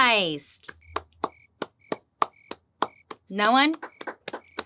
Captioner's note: crickets chirping